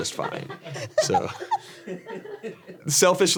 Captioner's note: Ironmouse and audience laugh